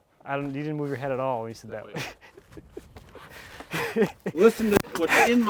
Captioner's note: chuckling